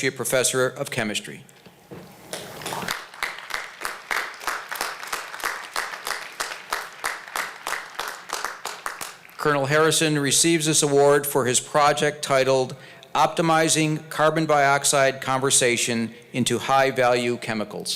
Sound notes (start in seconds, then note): 2.3 applause